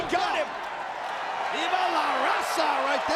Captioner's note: spectators cheering